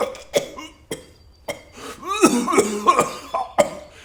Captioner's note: coughing